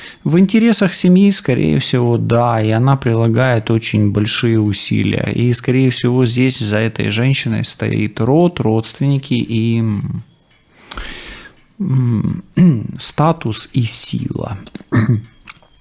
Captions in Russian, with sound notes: В интересах семьи, скорее всего, да. И она прилагает очень большие усилия. И, скорее всего, здесь за этой женщиной стоит род, родственники и м статус [откашливается] и сила.